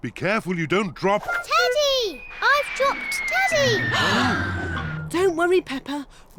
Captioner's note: all gasp